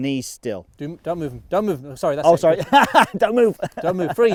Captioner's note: laughing